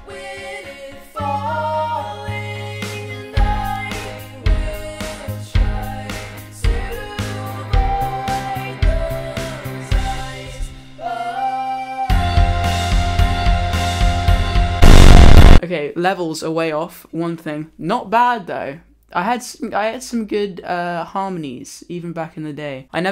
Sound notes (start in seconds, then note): 14.8 static